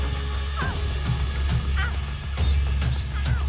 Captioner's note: cub meows